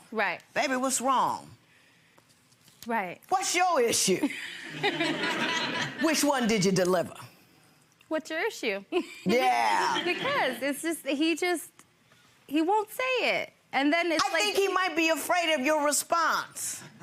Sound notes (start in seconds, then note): 4.3 people laughing; 9.0 chuckles